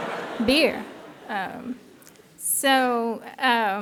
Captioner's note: laughter